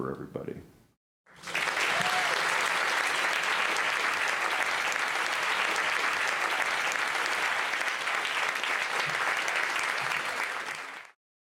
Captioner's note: applause